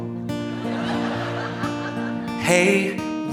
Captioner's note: audience laughing